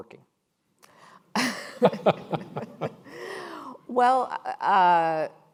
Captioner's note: panelists laughing